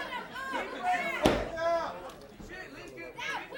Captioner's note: crowd chatter